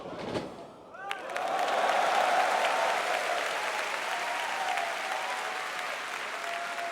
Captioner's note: audience cheering; audience applauding